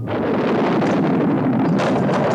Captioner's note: thunder rumbles; pole clatters